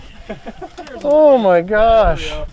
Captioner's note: crew laughs